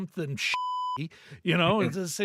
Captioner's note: beep